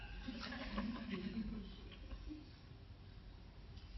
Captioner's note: audience laughing